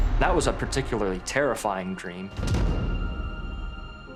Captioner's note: gunshot